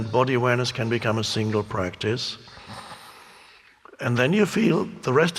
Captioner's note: breathing heavily